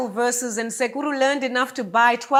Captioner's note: speaks in a foreign language